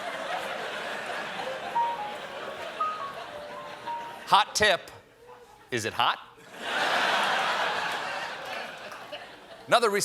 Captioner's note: laughter